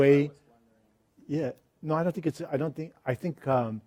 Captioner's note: voiceover